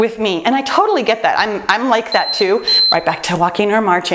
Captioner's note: timer beeps